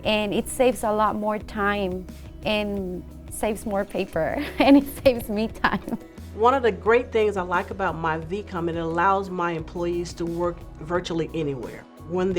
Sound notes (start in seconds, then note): 4.3 chuckles